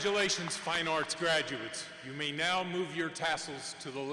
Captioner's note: applause